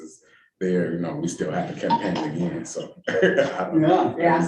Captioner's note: laughing